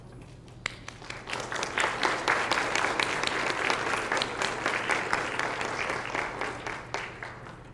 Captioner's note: applause